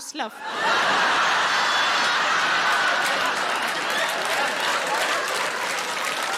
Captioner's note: audience laughing and applauding